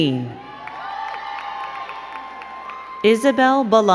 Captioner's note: crowd cheering and clapping